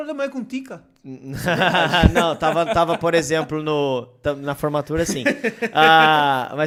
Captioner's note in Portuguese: risos